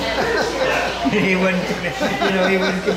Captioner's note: laughing